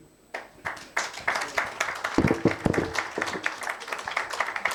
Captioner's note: audience applauding